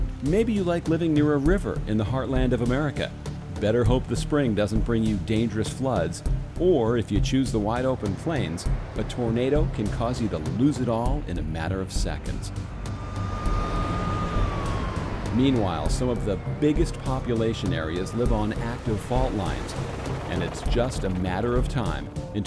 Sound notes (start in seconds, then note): 12.5 sirens wailing